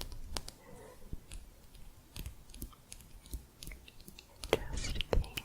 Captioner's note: quick tapping